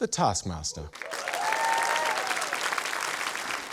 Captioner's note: cheering, applause